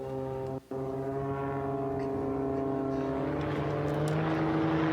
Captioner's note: plane engine roaring